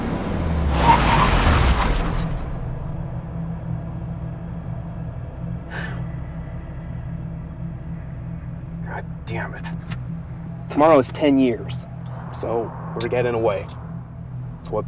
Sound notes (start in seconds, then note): 0.0 tires squealing; 5.7 Ben Sighs